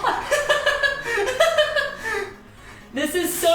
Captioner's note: laughs